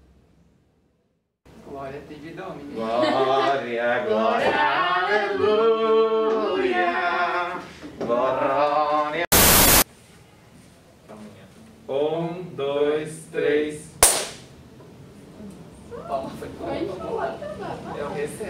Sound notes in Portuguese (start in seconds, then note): 4.6 cantando; 9.3 chiado